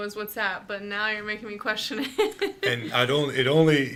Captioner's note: laughs